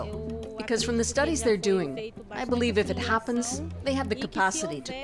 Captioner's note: speaking alternate language